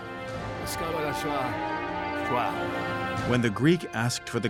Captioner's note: speaking Greek